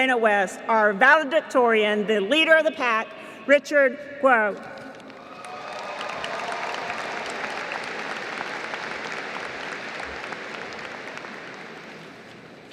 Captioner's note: applause